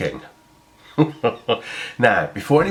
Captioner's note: laughing